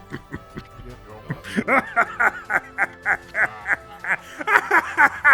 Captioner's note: chuckles; laughs; cackles